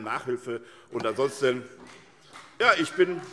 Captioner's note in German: Beifall SPD - Zuruf Freie Demokraten